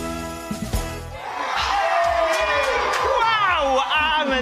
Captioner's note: cheering